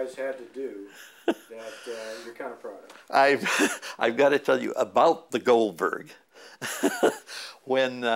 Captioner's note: chuckle; chuckle